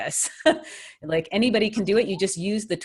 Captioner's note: laughs